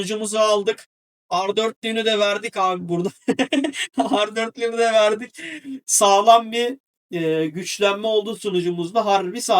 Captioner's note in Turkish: kahkaha